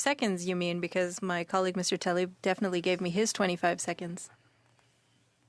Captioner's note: speaking French